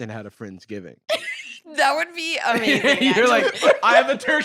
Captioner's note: laughs